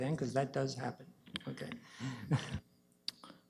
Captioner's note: chuckles